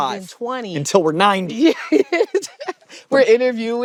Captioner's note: laughs